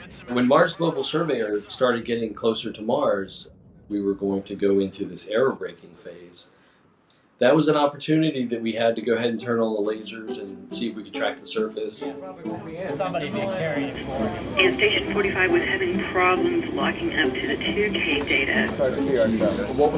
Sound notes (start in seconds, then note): 12.0 room chatter